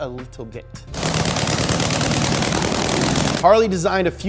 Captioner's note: engine revving